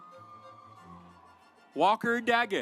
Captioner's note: audience applauds